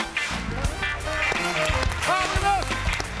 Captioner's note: audience clapping